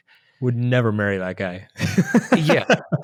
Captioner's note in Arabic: يضحك